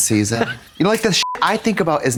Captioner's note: beep